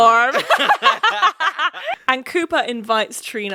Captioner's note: laughing